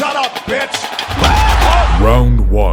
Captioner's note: man screams